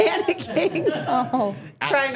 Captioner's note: laughs